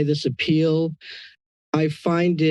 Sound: inhales

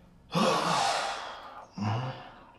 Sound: Max sighs

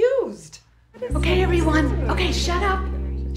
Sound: class mumbling

